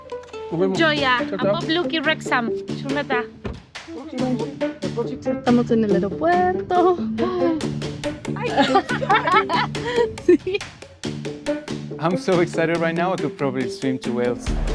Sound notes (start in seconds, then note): 5.2 in Spanish; 8.3 laughs